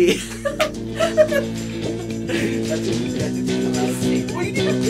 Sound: laughs; both chatter

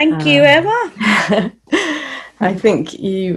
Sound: laughs

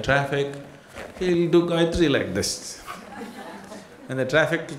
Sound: laughter

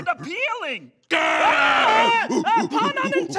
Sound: screams

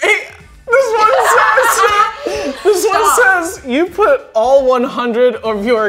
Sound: giggles

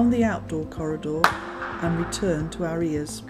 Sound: echo of clapping noise

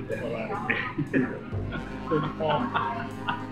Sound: laughing

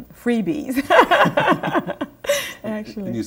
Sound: laughter

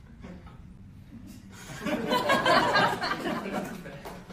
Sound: laughter

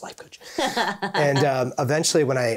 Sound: laughing joyously

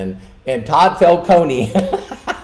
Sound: laughing

